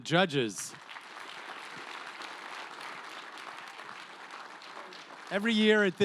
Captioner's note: applause